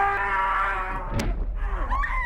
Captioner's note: Skull-Faced Assailant shouts; strike thudding; Tina whimpers